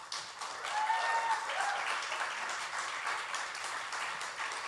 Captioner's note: audience applauds